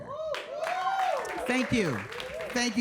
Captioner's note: audience cheers and applauds